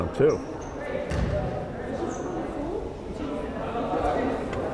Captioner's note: crowd chattering